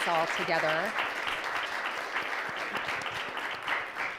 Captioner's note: applauding